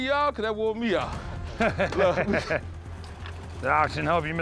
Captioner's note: laughs